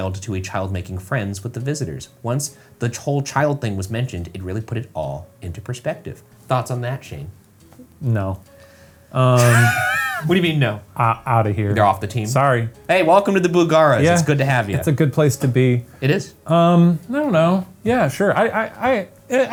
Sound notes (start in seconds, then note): 9.3 laughs